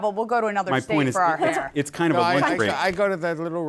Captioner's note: laughs